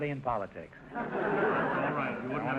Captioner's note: audience laughter